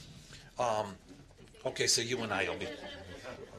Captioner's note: laughter